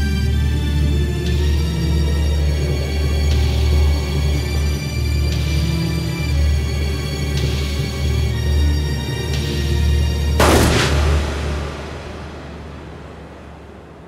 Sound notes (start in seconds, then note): 10.4 gun shot